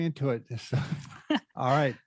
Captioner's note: laugh